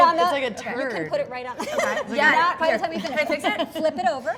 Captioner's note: laughs